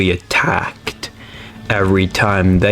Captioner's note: inhales Oxygen